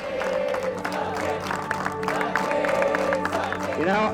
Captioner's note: all chant